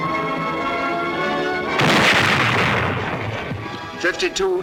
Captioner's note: bomb exploding